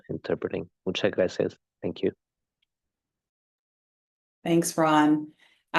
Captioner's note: spanish